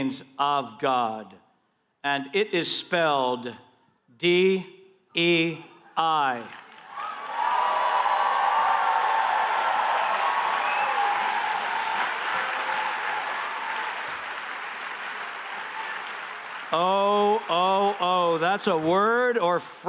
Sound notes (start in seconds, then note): 6.5 cheers and applause